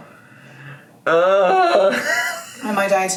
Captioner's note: laughs